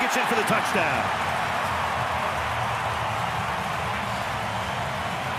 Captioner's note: crowd cheering